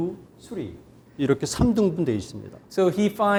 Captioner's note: speaking in Korean